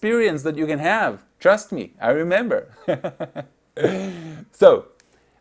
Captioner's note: chuckles